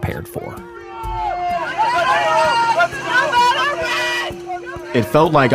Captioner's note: soldiers shouting